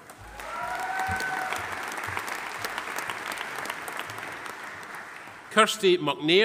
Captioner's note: audience applauding; audience cheering